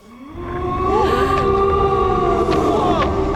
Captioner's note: gasps